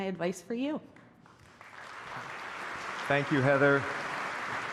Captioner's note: applause